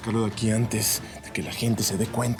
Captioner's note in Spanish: sollozos